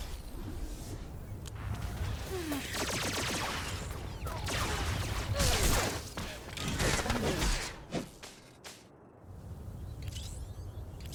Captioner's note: gunshots